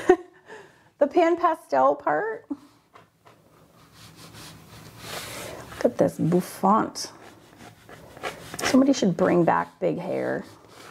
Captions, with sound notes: (laughs) the PanPastel part Look at this bouffant. Somebody should bring back big hair.